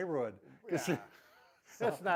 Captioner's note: laughs